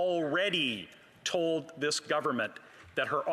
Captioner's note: speaking english